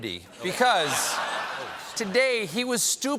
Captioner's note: laughter